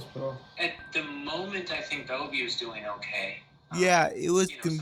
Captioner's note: on phone